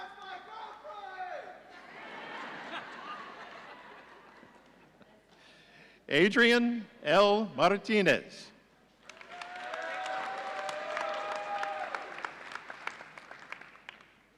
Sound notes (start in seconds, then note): 1.7 audience laughing; 9.1 audience cheering